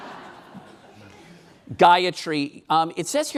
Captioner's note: laughing